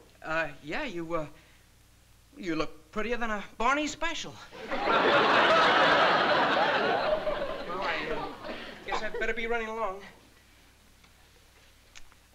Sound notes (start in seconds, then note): 4.5 laughter